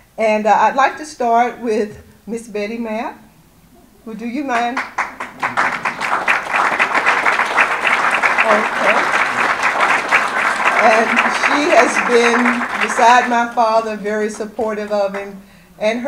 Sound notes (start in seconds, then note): 5.8 audience applause